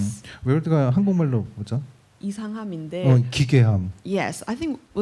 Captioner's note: speaking korean